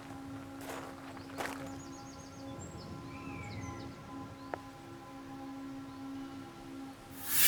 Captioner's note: pensive music continues; birds chirping